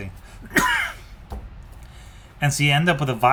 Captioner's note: coughs